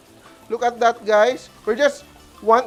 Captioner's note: sizzles